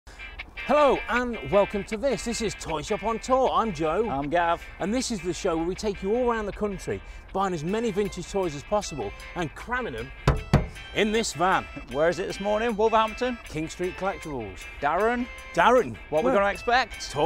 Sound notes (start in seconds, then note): 10.2 hand smacks